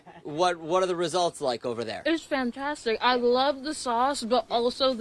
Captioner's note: laughter